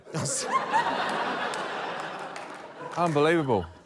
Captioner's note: laughter